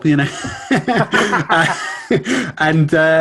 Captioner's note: both laughing